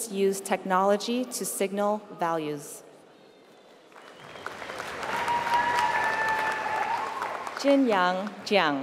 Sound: applause

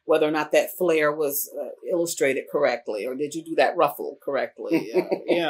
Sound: laughter

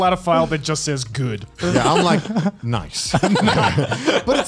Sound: laughs

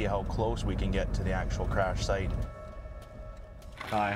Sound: voiceover

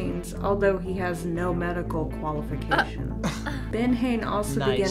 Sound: scoffs

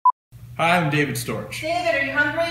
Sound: mom yells from off camera

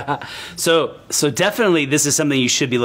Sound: laughs

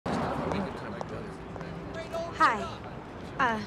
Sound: chatter

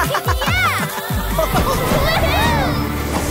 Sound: energetic music; all giggling

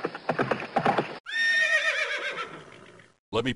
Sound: horse galloping up

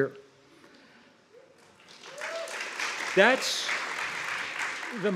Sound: audience applauds

